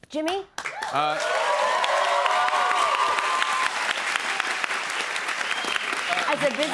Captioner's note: cheers and applause